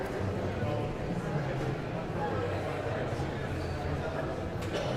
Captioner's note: guests continue chattering